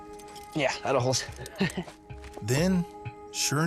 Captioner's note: chuckles